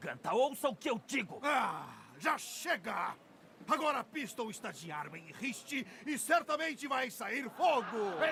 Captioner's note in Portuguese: gemido